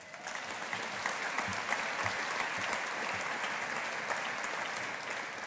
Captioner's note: audience applauding